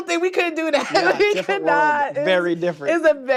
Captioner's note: laughing